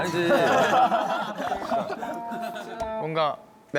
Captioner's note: haha